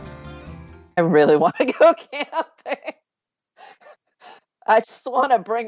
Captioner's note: laughing